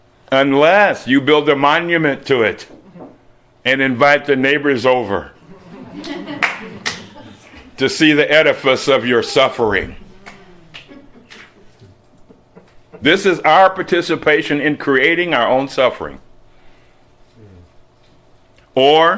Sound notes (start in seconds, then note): 5.5 slight laughter